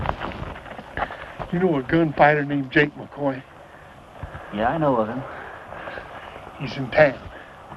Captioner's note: none